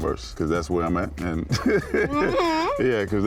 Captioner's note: laughs